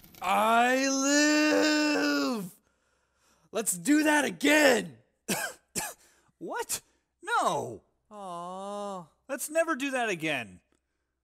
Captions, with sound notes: I LIIIIIIIIIVE! Let's do that again! *cough cough* What?! No! Awwwww. Let's never do that again!